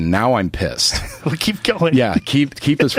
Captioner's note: laughing